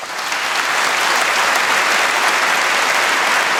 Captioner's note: applause